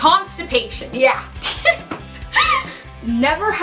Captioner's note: laughing